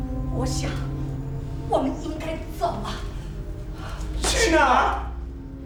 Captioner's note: speaking in a foreign language